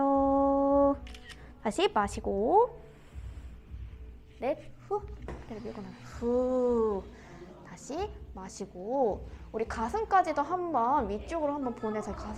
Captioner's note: Iphone click!!